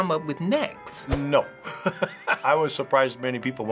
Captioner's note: chuckles